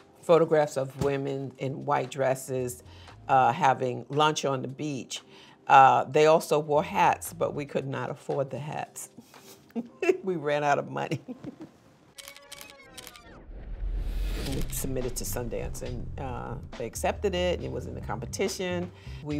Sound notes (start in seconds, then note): 11.2 chuckles; 12.1 camera shutter clicking